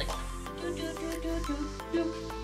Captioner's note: humming